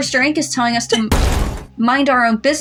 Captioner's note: crash